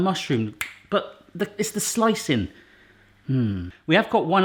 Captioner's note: he snaps; he hums